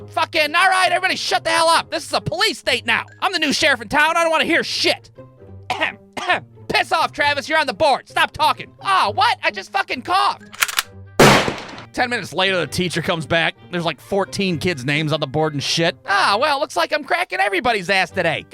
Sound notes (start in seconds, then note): 5.7 coughs; 10.6 click; 11.2 bang!